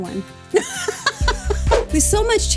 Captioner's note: laughs